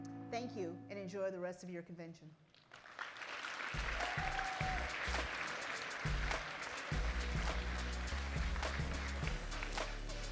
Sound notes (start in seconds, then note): 2.6 crowd cheers and applauds; 3.7 upbeat music